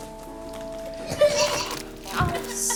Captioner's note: Nate retching; Nate cries